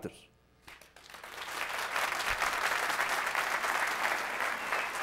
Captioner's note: applause